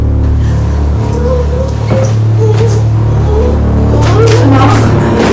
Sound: Emman whimpering

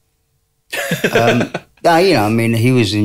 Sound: laughter

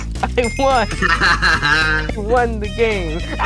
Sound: laughing

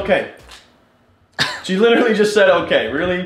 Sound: laughs

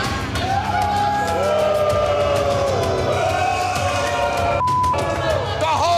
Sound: crowd booing; beep

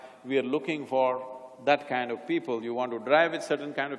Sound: none

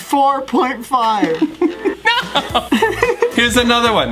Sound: laughs

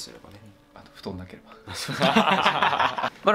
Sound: laughs

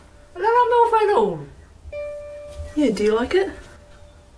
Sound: speaking in Samoan

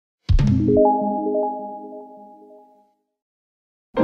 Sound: bling sound; happy/Upbeat Music

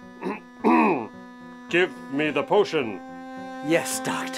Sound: clears throat

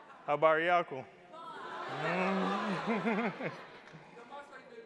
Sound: speaking in foreign language

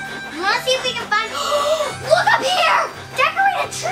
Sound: gasps

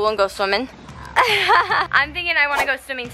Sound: laughs

